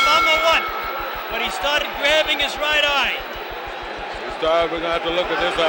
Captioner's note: bell sounds